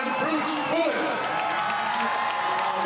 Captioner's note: audience cheers